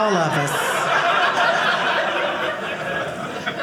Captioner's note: audience laughing